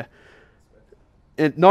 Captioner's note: voiceover